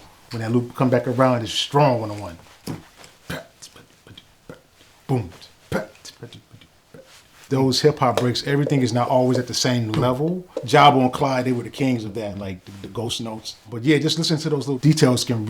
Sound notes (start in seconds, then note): 2.6 beatboxes